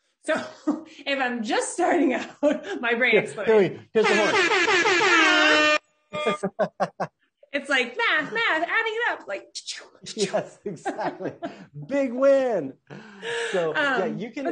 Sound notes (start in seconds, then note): 4.0 horn blowing; 10.0 laughs quietly